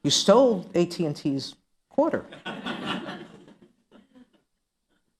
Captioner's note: laughter